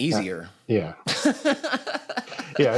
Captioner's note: laughs